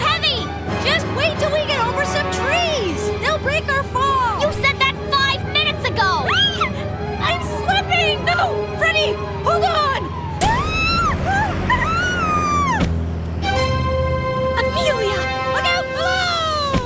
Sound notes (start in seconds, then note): 6.0 shriek; 10.4 screaming